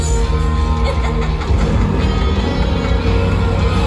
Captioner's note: more laughter